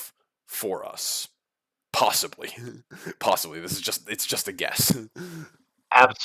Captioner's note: laughs